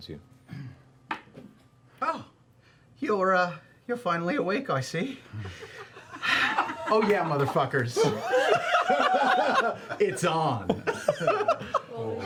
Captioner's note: high-pitched Cockney accent